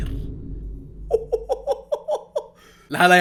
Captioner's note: chuckles